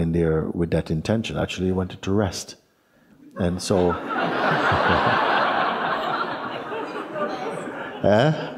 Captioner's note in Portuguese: risos